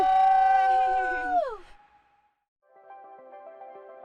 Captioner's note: cheering